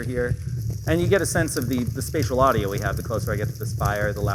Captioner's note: fire crackling